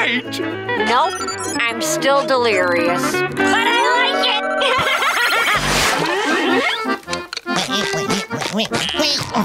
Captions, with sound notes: Nope, I'm still delirious. But I like it! [laughing]